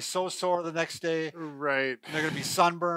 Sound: exhales deeply

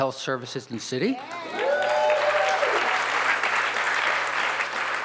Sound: audience cheers

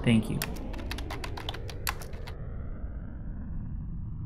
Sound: keyboard clicking

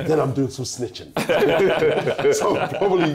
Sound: laughter

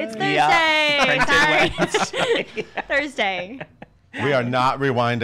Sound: laughing

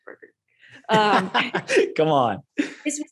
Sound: laughing

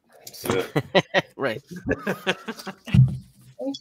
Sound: laughs

